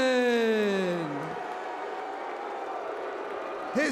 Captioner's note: crowd cheering